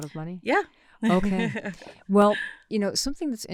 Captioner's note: laughs